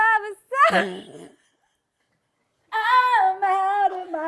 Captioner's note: laughs